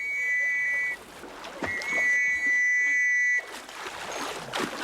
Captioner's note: blow the whistle